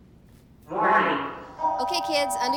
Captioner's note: alarm